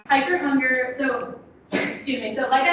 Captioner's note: coughs